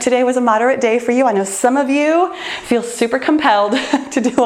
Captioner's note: laughs